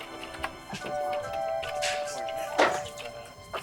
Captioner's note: gentle music; people chattering; gentle music